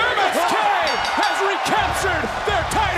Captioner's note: bell rings